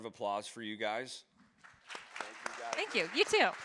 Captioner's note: audience applauds